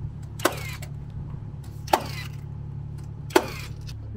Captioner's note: nail gun firing